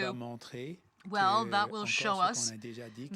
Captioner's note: speaking french